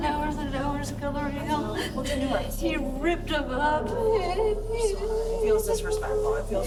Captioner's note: crying